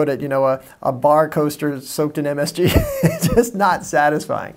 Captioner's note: laughing